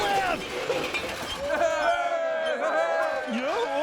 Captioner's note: crowd cheering